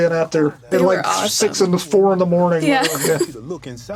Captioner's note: laughs